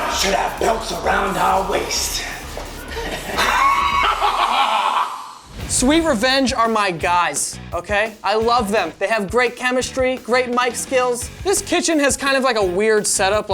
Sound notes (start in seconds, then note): 2.5 laughs